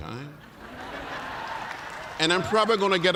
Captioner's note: laughter; cheers and applause